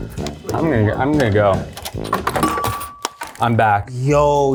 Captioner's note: phone clinking